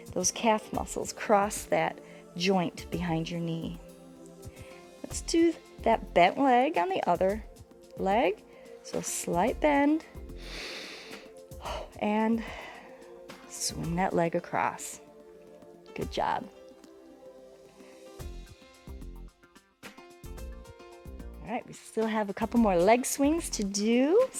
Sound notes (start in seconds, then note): 10.1 inhales and exhales